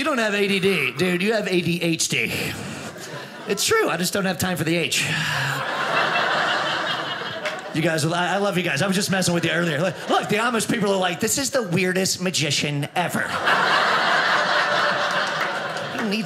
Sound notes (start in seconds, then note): 5.3 audience laughing; 13.2 audience laughing